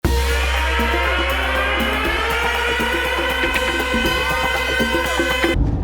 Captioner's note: sirens